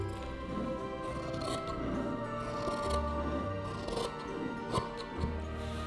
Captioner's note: calm fabric cutting